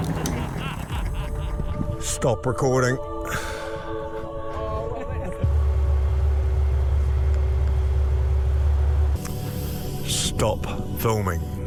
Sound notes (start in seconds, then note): 3.2 sighs